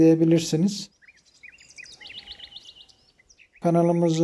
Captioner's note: bird sounds